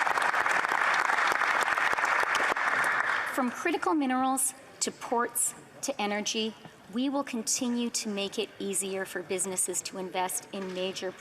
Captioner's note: applause